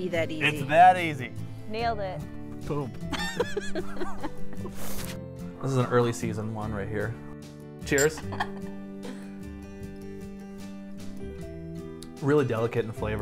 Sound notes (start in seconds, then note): 3.1 laughs; 7.9 clink; 8.2 giggles